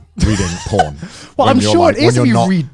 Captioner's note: laughing